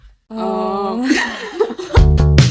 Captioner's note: laugh